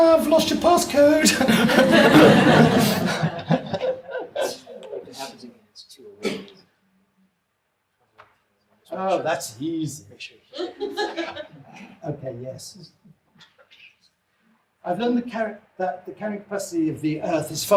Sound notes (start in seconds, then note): 1.2 audience laughs; 5.4 whispering; 10.5 woman laughs